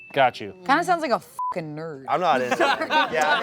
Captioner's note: beep